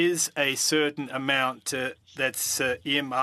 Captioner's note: speaking French